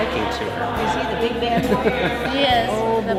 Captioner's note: laughing